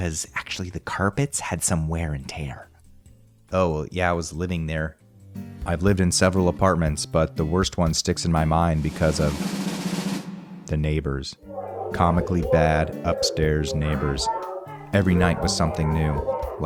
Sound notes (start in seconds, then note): 8.7 drumroll; 11.5 loud arguing